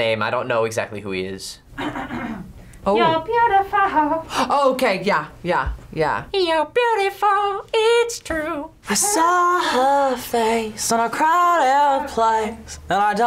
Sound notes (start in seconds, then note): 1.7 React clears throat